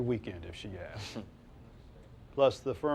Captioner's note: Silk chortles